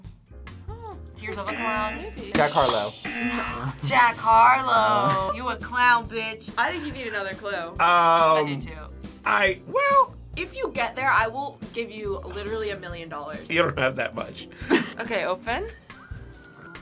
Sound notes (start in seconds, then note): 1.4 buzzer rings; 1.4 buzzer; 3.9 gasps; 14.7 React laughs